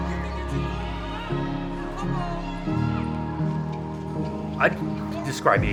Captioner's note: children laughing and yelling